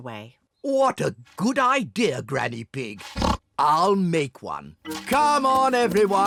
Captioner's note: oinks